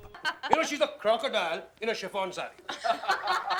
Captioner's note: raucous laughter